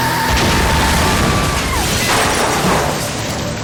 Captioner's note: tires screeching; woman screams